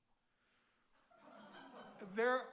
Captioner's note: audience laughing